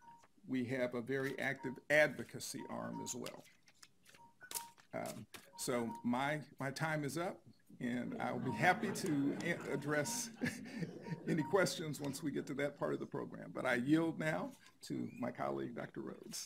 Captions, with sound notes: and we have a very active advocacy arm as well. So, my time is up, and I would be happy (audience laughs lightly) to address (chuckles) any questions once we get to that part of the program. But I yield now to my colleague, Dr. Rhoads.